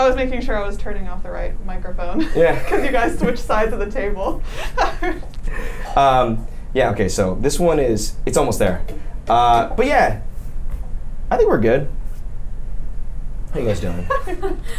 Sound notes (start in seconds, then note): 6.1 laughs; 13.9 laughing